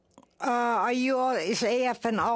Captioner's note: speaking Alternate Language